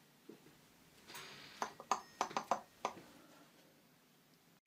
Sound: knocking noises

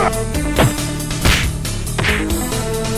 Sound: series of punches

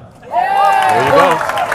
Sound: audience applauding and cheering

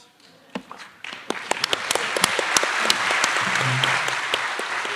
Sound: attendees applauding

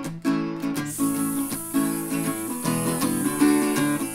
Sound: hisses

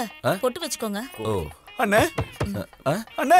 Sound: knock on door

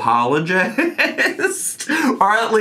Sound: laughs

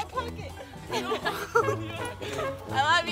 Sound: laughing

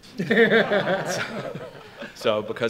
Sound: audience laughs

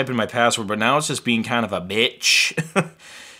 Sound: laughs

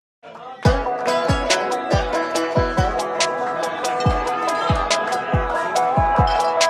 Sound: crowd chattering; upbeat music

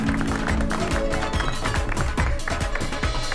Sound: applauding

